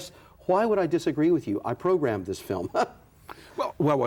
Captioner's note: laughter